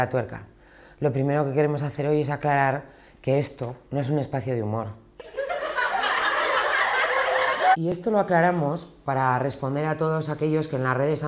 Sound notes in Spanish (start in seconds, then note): 5.3 risas de lata